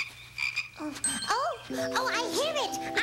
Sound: ribbit ribbit

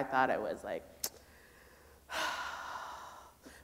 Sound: sighs

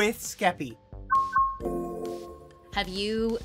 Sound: beeping

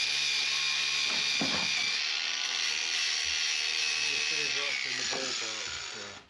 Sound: drilling

